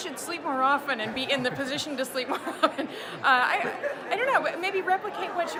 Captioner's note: laughs